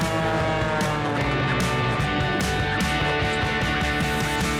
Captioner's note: airplane engine roars